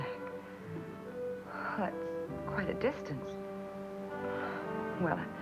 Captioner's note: sighs